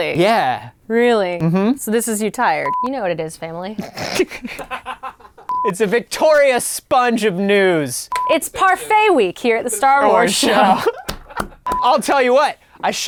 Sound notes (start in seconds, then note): 3.7 laughing; 10.9 laughing